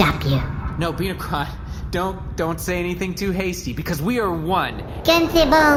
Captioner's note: nervous